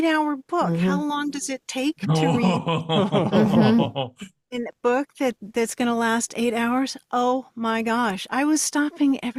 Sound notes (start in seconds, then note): 2.0 laughs